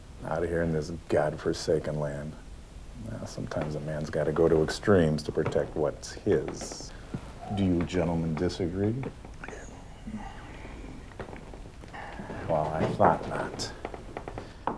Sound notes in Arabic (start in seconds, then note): none